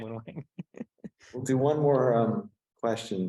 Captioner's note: laughs